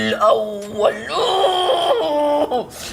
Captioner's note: growls